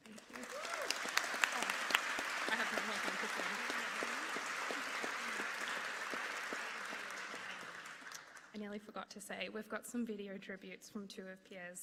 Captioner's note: applause